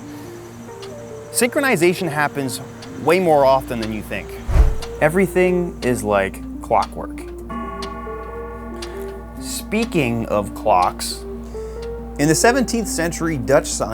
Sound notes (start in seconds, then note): 0.1 clock ticking; 7.6 clock chimes